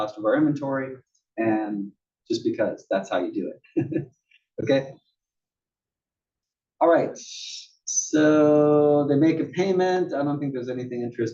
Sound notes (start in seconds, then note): 3.8 laugh